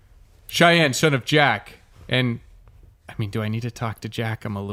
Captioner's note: whispering